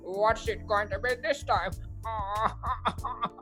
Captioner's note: Mr Smith is crying